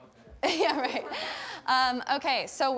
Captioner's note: laughs